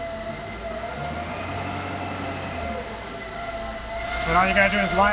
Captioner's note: machinery whirring; engine rumbling